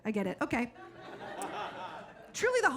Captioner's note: audience laughing